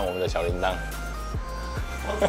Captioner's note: awkward laugh